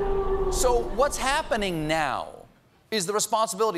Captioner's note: low wind and rustling branches